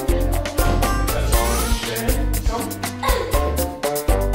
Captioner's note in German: Stimme des Erwachsenen, angestrengter Laut